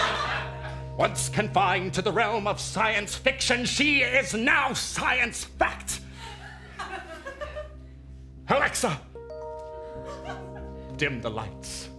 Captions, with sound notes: Once confined to the realm of science fiction, she is now science fact! Alexa! (Alexa chime) Dim the lights.